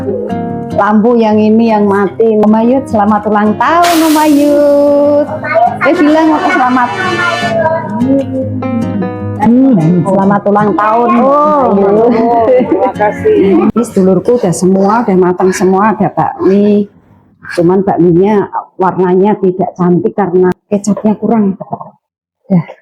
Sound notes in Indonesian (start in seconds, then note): 10.8 tertawa